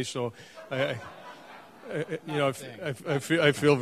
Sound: audience laughing

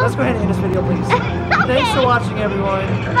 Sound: laughing

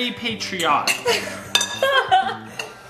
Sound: mom laughing

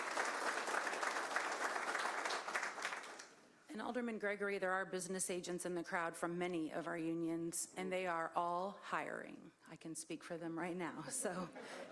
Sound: applause

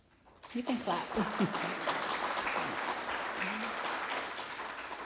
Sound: applause

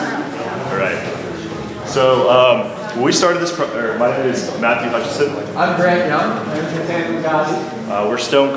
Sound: talking in background

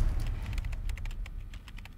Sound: typing on keyboard

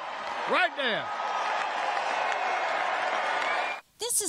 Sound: applause

